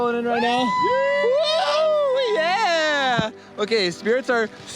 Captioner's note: cheering